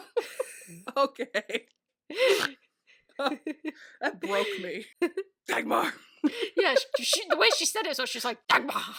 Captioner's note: laughing